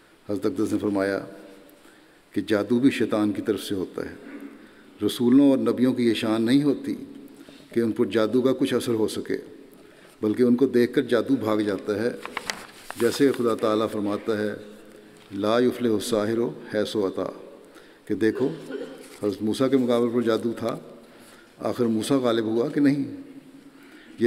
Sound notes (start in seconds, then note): 18.3 Arabic